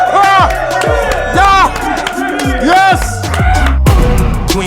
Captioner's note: sound of cheering